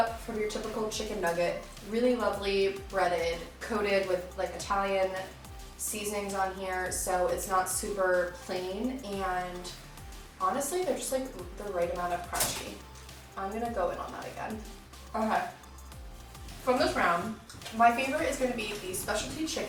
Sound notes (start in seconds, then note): none